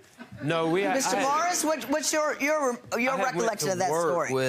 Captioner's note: audience chuckles